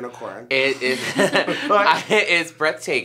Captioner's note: all laugh